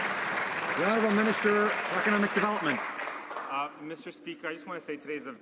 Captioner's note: some Applause